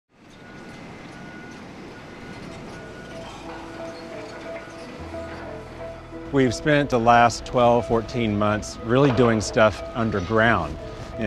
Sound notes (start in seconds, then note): 0.1 construction noises